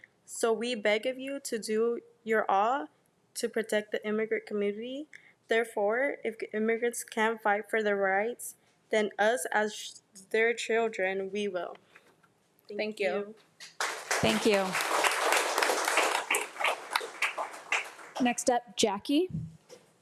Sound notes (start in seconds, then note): 13.6 audience applauding